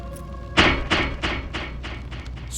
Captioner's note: overly dramatic thud